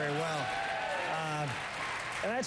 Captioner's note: applause